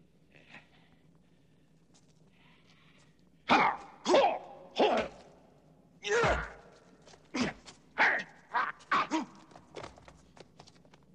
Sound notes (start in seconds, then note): 3.8 grunting; 6.2 hitting; 8.7 grunting